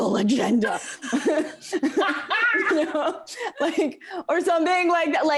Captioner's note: laughs